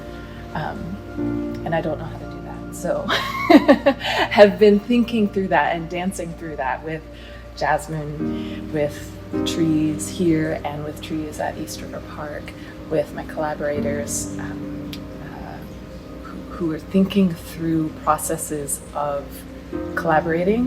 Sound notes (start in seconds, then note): 3.1 laughing